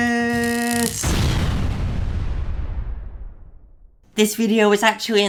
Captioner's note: loud exploding